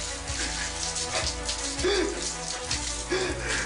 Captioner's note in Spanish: Sollozos y jadeos de Emiliano